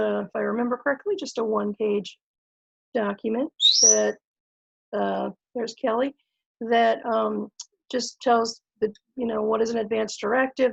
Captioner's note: bird chirps